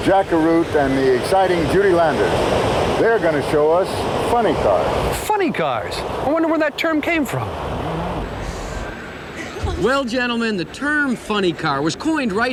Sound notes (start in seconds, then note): 4.4 voiceover